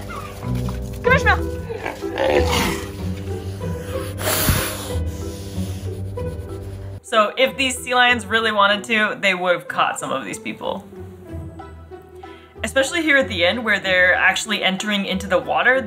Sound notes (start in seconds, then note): 2.4 sea lion vocalisations/noises